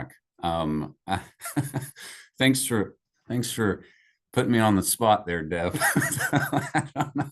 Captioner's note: laughs